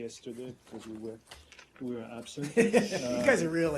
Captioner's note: laughter